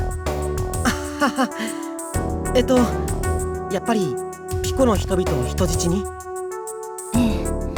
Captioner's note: awkward laugh